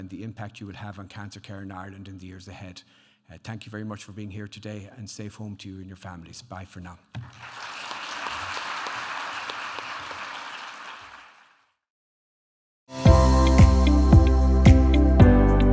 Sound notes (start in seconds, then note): 7.2 audience applauding; 13.0 upbeat music